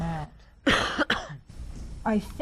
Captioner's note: coughs